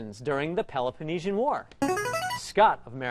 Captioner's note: ringer